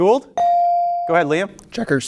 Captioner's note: bell ringing